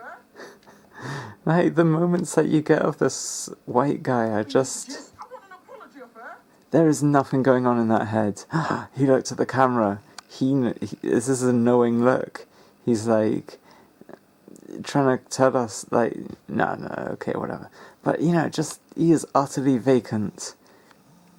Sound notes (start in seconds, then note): 0.1 titters; 8.4 gasps